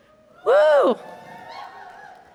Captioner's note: cheers